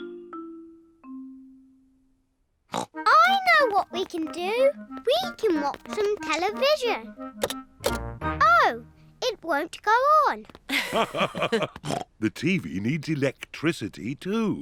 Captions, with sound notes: (SNORTS) I know what we can do! We can watch some television. Oh, it won't go on! -(BOTH LAUGH) -The TV needs electricity, too.